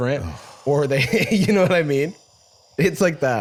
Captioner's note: laughs